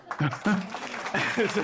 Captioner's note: audience Applauding